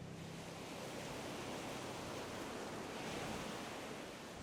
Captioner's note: waves breaking